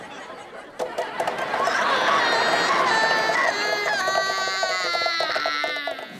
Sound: crying

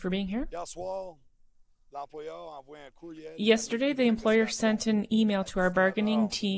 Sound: speaking French

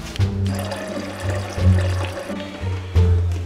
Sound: water filling

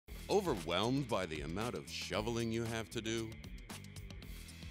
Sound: voiceover

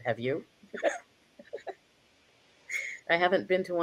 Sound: chuckles

